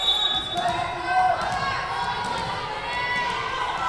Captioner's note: whistle blowing